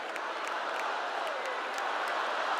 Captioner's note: cheers and applause